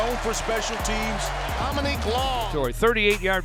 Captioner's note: announcers yelling